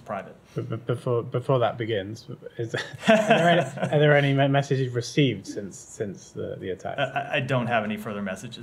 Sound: laughter

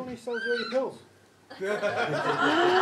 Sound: audience laughter

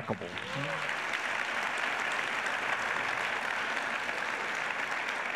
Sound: audience applauds

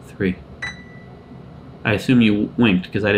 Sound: winking eye dinging

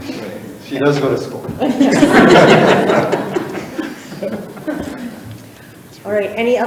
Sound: all laughing

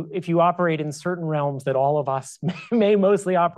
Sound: chuckles

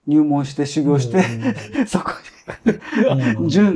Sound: laughs

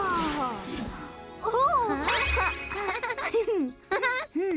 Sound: chuckles

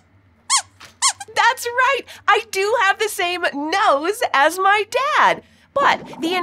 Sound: squeaks squeaking

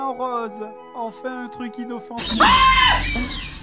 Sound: raptor snarls

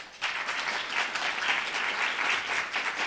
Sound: applause

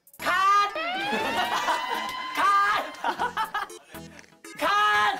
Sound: GOT siren is filling the studio

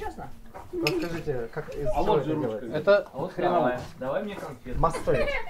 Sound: people speaking foreign language

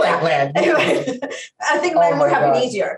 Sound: laughs

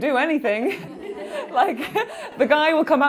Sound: laughing

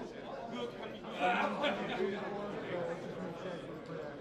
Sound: laughing

